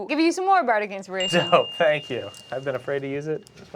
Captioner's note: soft ringing